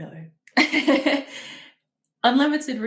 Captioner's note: laughs